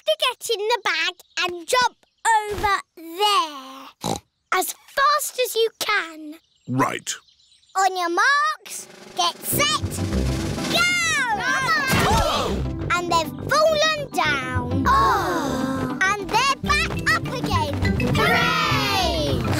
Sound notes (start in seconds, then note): 4.0 snorts; 12.2 all groan